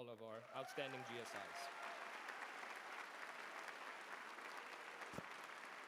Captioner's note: applause